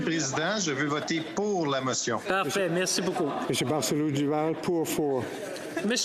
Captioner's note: spea Speakng French